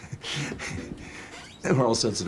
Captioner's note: laughing